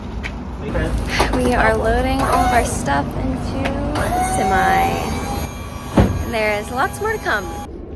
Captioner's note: sigh